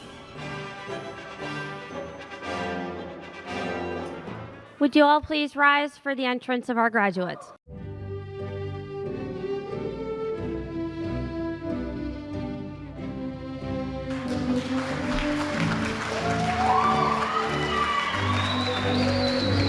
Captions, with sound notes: (cheerful classical music) - Would you all please rise for the entrance of our graduates. (dramatic music) (applause)